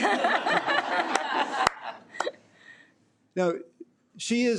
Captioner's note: audience laughing